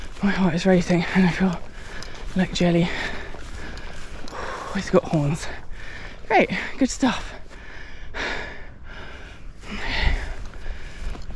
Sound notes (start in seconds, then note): 7.9 nervous breathing; 11.1 nervous breathing